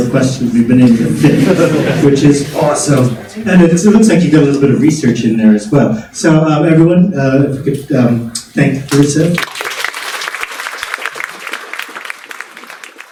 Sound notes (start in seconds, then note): 1.0 congregation laughing; 9.3 congregation applauding